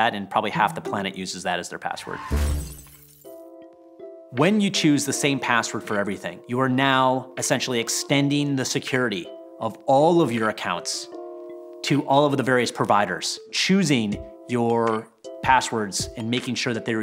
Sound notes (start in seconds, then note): 2.1 glass shattering